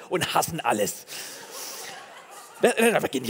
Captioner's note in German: Gelächter